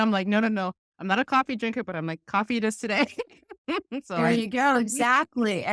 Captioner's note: laughs